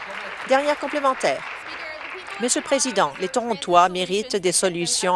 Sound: applause

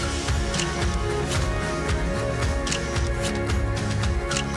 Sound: camera shutter clicking

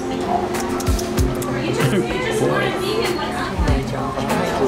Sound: tongue clicks

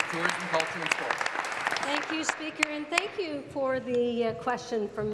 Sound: applause

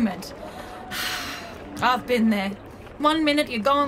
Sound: sighs

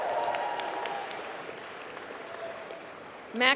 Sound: applause

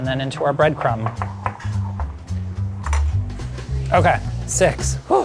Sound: bowl clattering

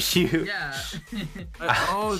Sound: laughs

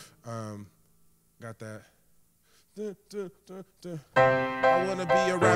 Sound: hums; playing piano

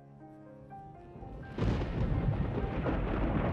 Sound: thunder

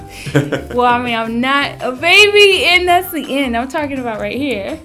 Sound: chuckles

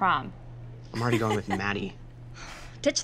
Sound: laughs

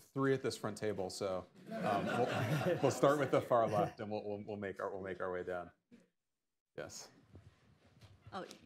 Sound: laughter

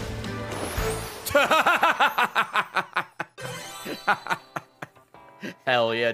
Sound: laughs

